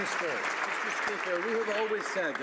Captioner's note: some Applause